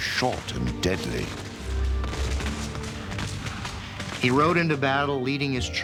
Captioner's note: guns firing